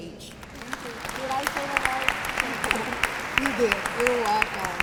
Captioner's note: applause